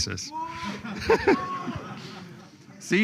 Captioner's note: laughter